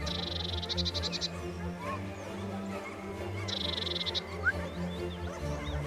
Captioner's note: dramatic music; dogs barking